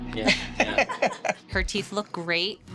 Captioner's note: laughing